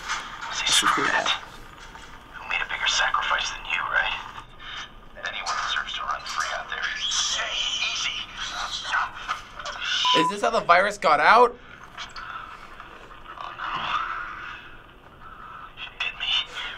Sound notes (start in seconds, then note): 7.0 in recording: monkeys screech aggressively